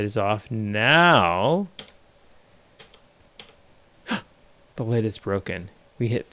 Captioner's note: gasps